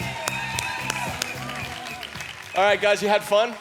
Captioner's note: applause and upbeat music